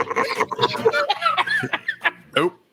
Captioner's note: laughs